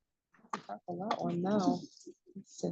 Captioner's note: attendee chattering